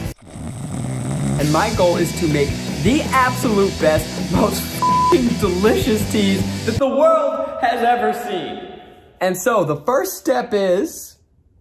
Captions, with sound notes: (woman snoring) And my goal is to make the absolute best, most (beeps) delicious teas that the world has ever seen. And so, the first step is,